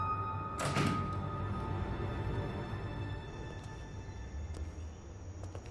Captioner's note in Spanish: Portazo